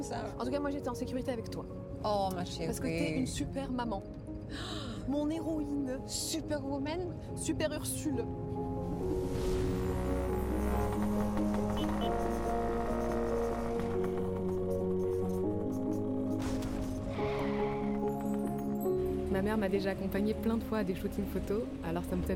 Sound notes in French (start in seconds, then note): 9.6 vrombissement du moteur; 10.1 klaxon; 16.7 crissement de pneus